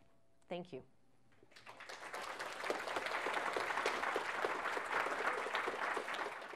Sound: applause

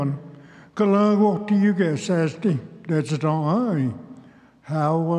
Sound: speaks Cherokee

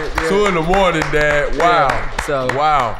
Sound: audience applauding

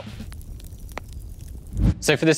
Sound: fire crackling

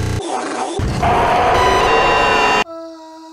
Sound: screaming

